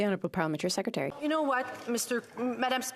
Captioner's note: applause